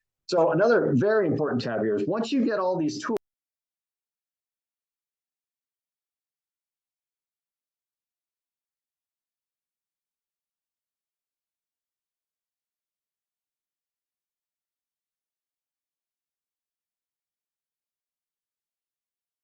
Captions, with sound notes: So another very important tab here is, once you get all these tools, [silence]